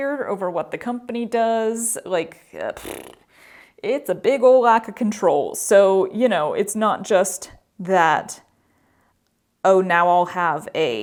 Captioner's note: mouth fart